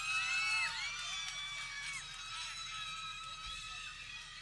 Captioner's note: people cheering